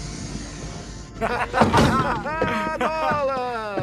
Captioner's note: both laughing